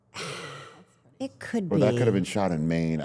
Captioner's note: sighs